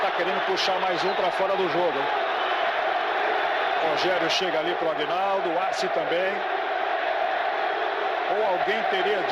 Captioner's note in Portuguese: aplausos